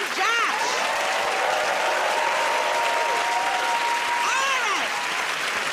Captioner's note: cheering and applause